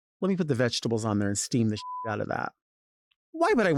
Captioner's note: beep